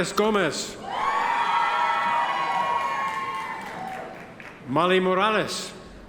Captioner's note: audience members cheer